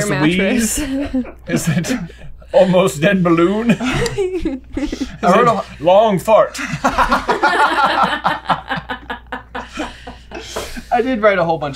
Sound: laughter

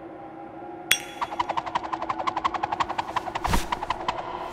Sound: coin spinning

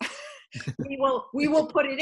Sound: laughs

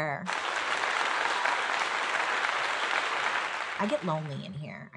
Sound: people applauding

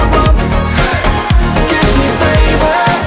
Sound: crowd

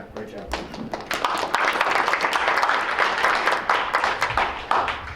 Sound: applause

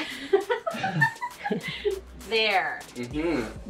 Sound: host laughing

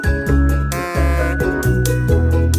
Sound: buzzer sound; lively channel music

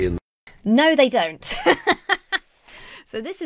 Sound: laughs

